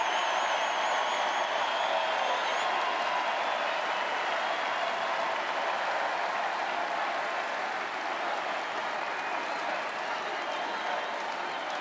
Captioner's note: cheering and Applause